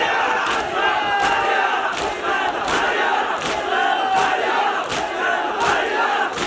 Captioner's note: people chanting “Ali Mullah Hussain